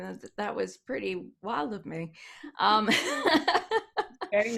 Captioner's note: laughs